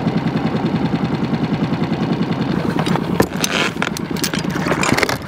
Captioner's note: engine idling